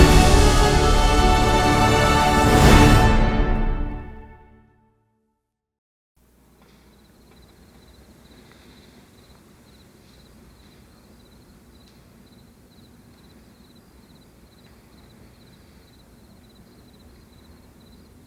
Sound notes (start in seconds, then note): 6.5 crickets chirp